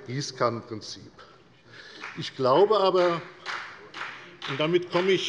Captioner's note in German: Beifall bei der FDP